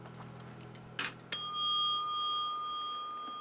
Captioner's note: dings bell